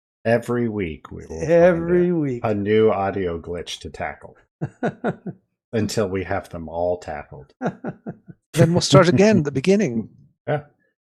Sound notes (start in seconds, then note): 7.5 laughs